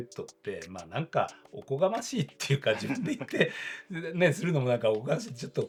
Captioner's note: laughs